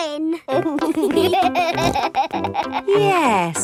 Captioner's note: laughing